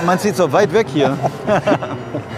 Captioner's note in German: Sie lachen